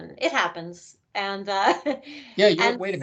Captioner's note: laughing